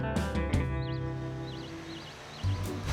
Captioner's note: birds chirping